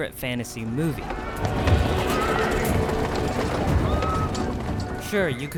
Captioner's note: horses neigh; people shout